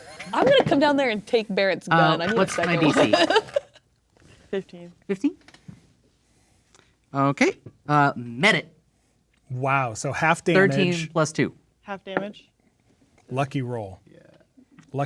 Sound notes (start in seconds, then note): 0.0 players laughing; 2.0 laughing